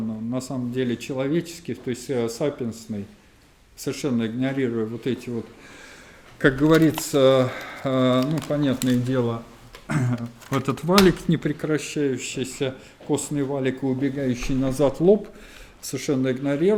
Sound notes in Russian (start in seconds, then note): 9.9 откашливается